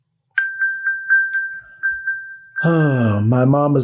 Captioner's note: electronic bell